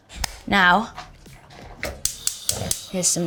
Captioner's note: stove clicking